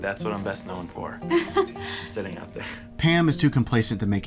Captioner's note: laughs